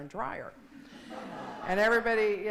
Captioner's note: laughing